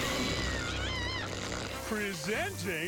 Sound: screeches

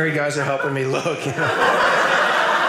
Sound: audience laughing

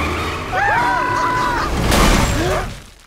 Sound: screaming

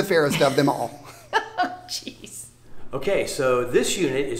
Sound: laughs

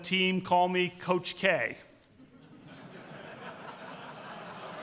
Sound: laughter

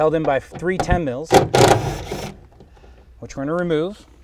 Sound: drill buzzing

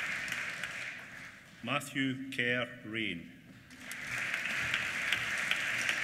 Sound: applause

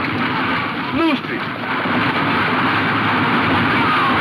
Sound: horses galloping

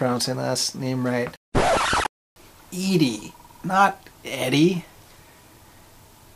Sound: record scratch

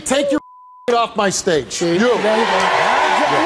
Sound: audience cheers

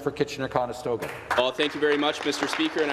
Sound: some Applause

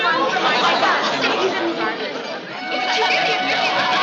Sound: ladies chattering

